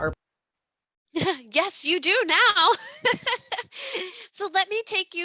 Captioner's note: laughs